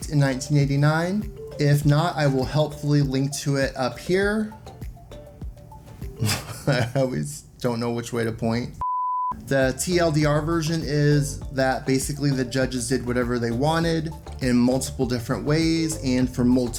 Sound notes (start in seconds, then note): 6.2 laughs